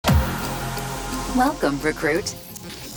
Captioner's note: computer voice